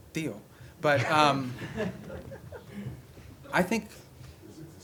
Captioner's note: laughter